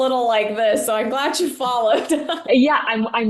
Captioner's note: laughing